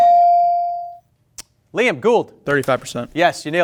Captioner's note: bell ring